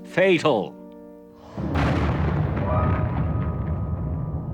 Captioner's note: canons Firing